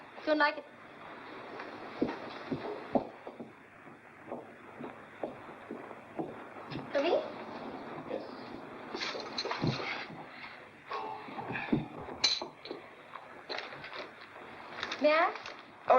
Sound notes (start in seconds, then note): 1.0 Leslie's footsteps; 8.8 table rattles